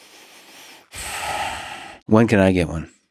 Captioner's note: Lex sighs